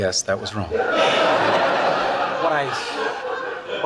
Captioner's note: audience laughs